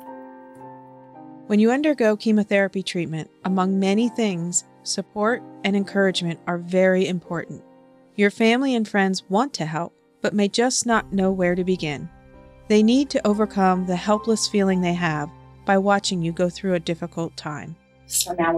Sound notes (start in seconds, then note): 1.7 voiceover